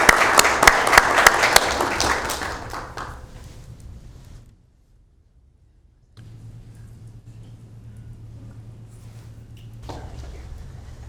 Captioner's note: applauding